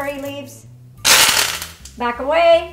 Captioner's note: oil sizzling